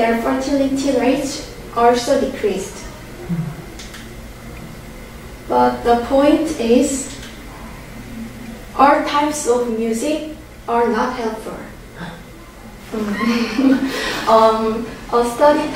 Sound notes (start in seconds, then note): 12.9 laughing